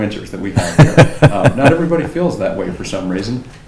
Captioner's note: laughs